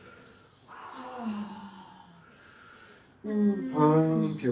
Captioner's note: sighing